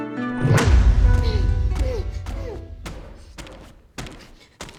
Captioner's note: Alicia grunting